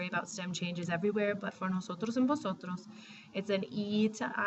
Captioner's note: spanish